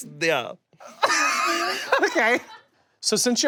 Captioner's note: laughs